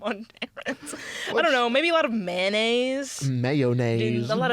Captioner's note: laughing